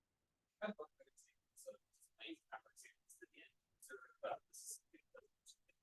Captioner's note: student speaking faintly